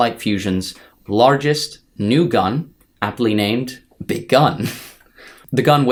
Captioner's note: chuckles